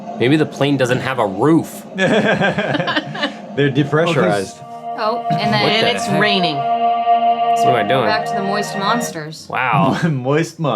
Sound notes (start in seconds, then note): 1.9 laughing; 7.1 mystical music